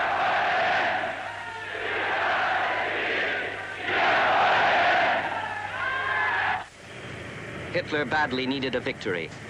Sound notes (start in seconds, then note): 3.8 crowd chanting in foreign language continues